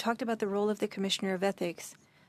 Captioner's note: speaking French